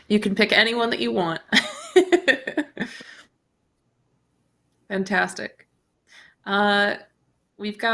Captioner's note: chuckles